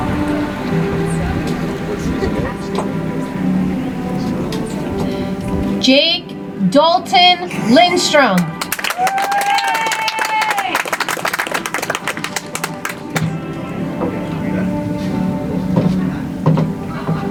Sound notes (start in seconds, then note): 8.3 audience applauds; 14.2 soft music